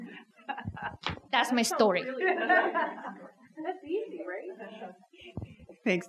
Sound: laughter from audience

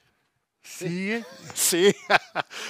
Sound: laughing

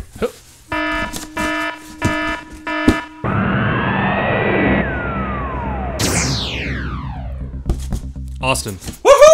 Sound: beeping

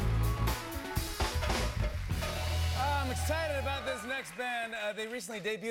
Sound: cheers a applause

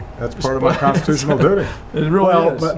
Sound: chuckles

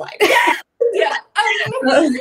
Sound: laughing

